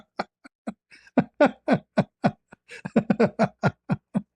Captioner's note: ketawa